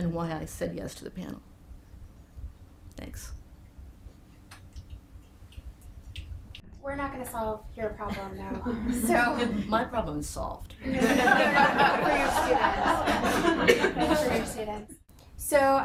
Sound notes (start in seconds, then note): 10.9 laughing; 10.9 everybody laughing